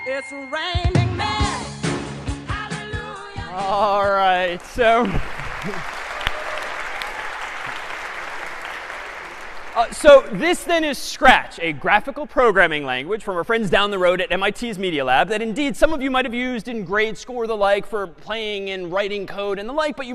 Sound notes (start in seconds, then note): 4.4 applause; 4.9 chuckles